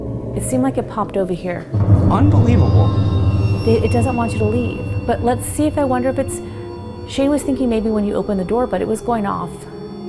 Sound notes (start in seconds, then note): 0.0 ominous music; 2.0 device beeping